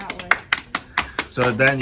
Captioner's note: applause